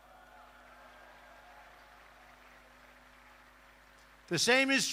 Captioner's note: applause